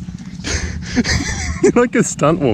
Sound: laughs

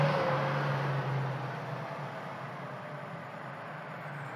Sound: truck engine whirs

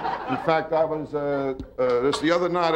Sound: audience laughing

